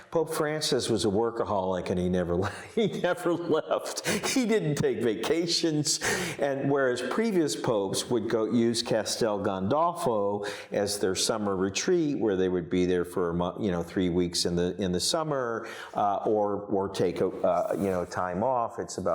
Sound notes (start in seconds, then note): 3.8 laughs